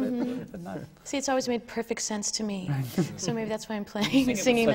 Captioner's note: laughs